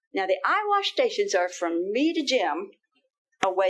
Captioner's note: none